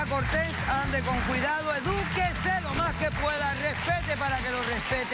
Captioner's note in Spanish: Aplausos